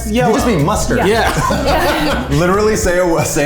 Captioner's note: everyone laughs